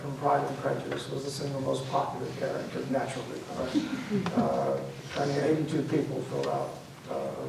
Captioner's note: audience laughs